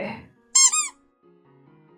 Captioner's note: squeaky sfx